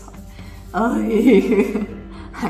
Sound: laughs

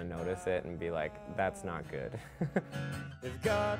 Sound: laughs

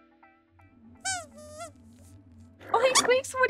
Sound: squeaks squeaking

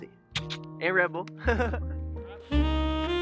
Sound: clicking with mouth; laughing

